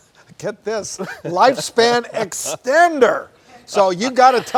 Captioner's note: chuckles